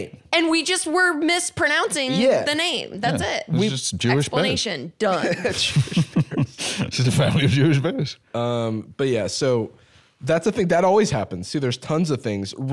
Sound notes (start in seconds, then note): 5.1 laughing